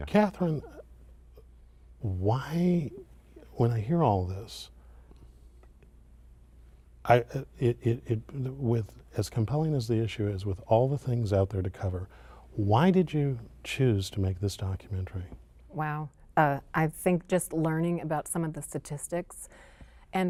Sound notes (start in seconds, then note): 7.0 stuttering